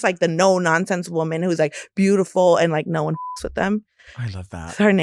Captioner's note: beep